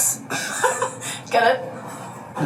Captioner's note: laughing